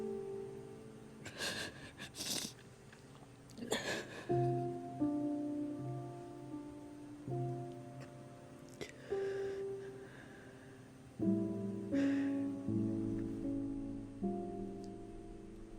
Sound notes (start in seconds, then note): 1.3 crying; 3.5 soft piano music